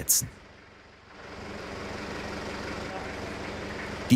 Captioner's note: machine noises